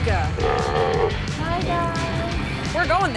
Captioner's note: seals croaking